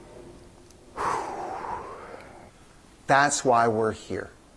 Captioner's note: heavy sigh